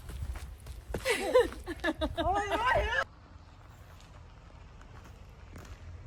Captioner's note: laughs